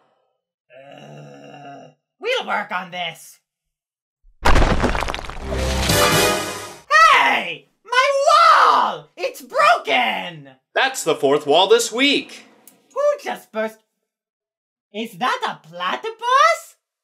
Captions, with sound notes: We'll work on this. *crash* [dramatic music sting] Hey! My wall! It's broken! That's the fourth wall this week. Who just burst- is that a platypus?